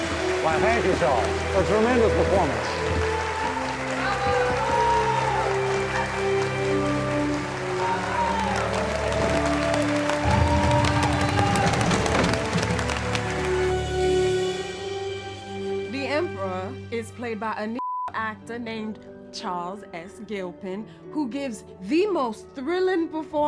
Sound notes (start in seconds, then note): 4.7 cheering; 5.8 audience applauding